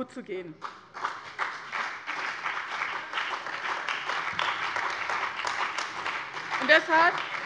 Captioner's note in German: Beifall bei dem BÜNDNIS 90/DIE GRÜNEN und der CDU